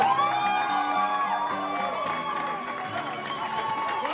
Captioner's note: crowd cheers